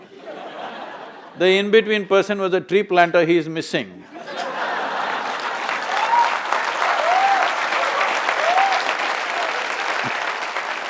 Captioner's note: laughter/Applause